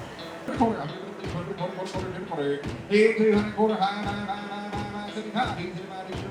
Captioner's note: upbeat music; auctioneer mumbling out prices